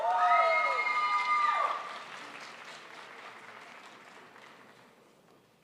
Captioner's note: crowd applauds